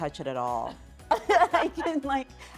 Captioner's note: laughter